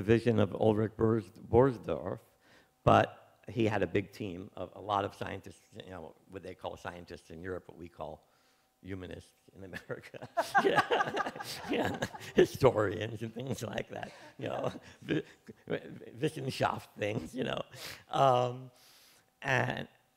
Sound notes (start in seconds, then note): 10.2 laughs